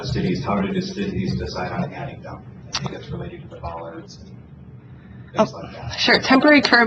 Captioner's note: moderator speaking in background